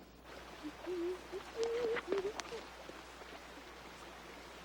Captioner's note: Luke humming